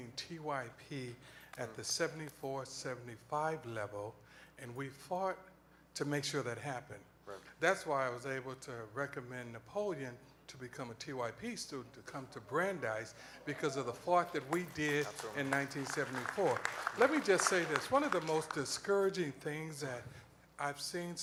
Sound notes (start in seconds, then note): 14.2 applause